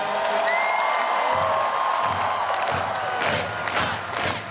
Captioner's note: crowd cheering; crowd